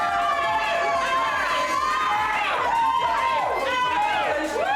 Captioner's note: friends cheer